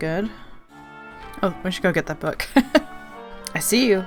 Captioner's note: laughs